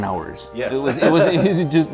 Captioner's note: laughs